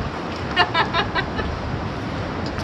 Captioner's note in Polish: śmiech